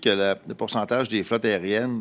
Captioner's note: speaking French